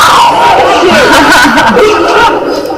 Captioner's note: laughing